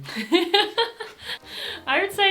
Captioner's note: laughs